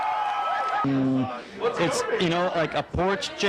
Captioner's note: crowd cheering